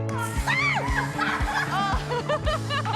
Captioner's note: screams; laughter